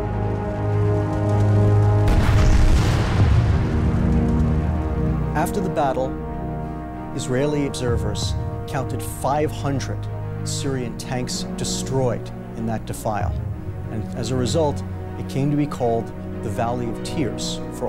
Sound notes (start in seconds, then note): 2.0 explosions booming